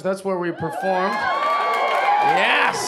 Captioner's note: audience cheering and applauding